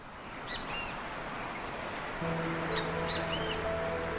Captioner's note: birds chirping